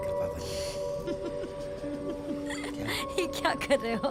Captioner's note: chuckles